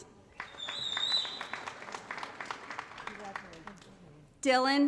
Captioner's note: applause